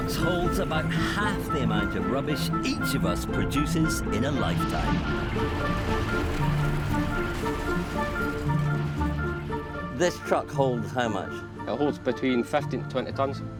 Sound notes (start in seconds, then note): 4.0 trash crashing